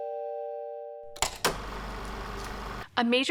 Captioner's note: film reel spinning